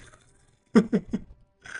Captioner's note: laughs